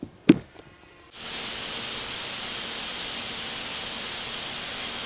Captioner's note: machine grinds